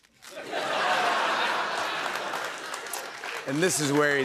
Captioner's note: laughter